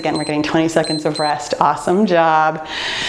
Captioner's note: timer beeps